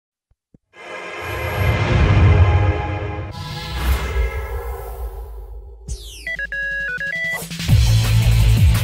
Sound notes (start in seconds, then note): 5.9 beeping; 6.4 theme music playing